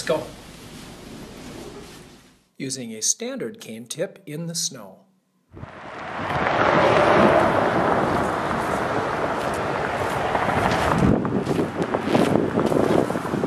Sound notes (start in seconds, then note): 9.5 wind